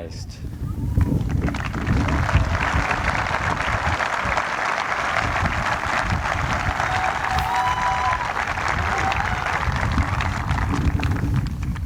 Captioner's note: applause